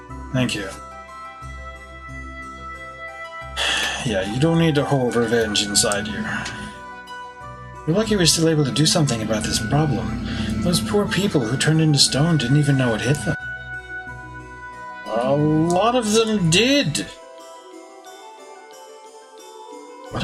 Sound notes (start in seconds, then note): 5.8 sighs